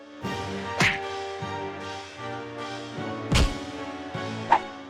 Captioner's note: cartoon swoosh